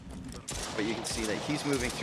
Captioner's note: gunshots